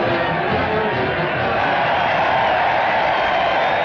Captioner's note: cheering